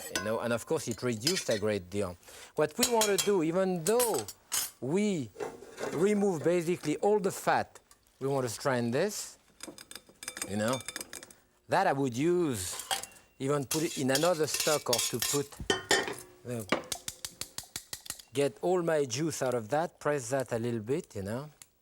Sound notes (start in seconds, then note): 15.8 clank of spoon